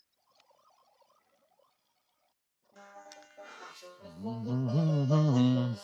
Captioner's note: humming